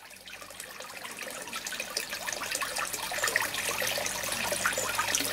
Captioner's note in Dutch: geluid van kabbelend water